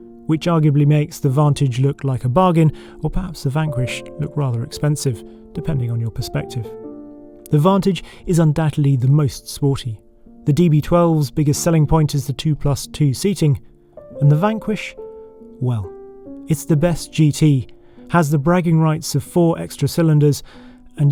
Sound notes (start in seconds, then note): none